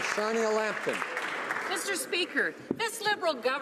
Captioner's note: applause